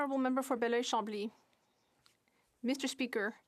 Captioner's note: speaking in French